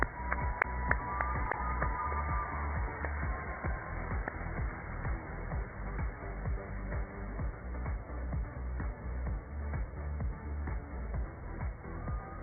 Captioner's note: cheers and applause